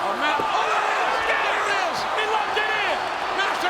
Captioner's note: audience screaming